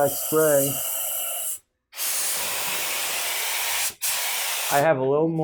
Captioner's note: loud spraying